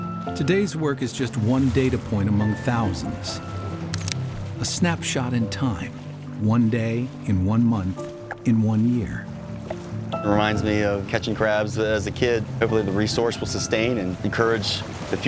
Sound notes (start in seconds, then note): 3.8 camera shutter clicks